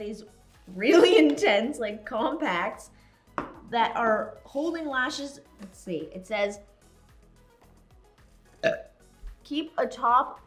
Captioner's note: burp